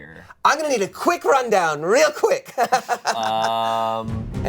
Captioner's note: laughs